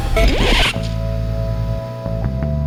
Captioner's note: record scratch